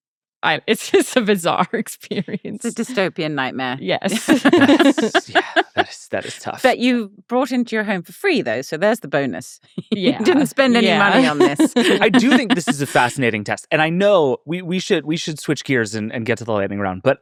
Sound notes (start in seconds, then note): 4.1 laughing